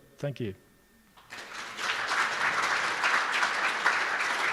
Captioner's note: applause